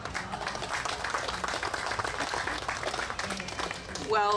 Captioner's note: group clapping